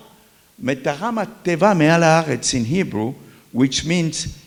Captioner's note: talks in Hebrew